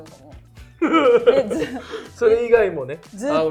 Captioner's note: laughs